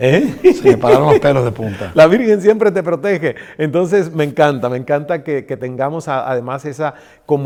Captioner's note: hahaha laughs